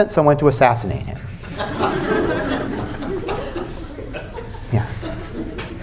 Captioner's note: laughter